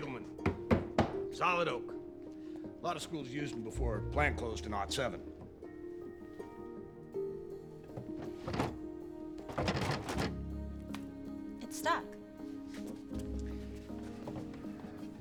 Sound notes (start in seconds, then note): 6.8 drawer thumps and rattles